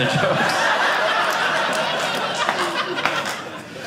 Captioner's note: audience laughing